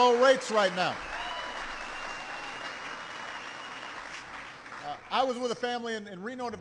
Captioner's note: applause